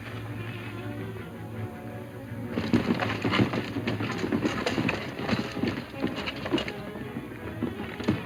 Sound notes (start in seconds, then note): 4.1 hooves pounding